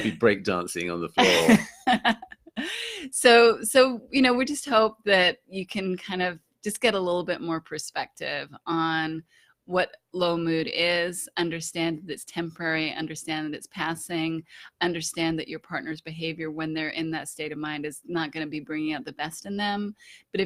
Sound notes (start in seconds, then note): 1.2 laughing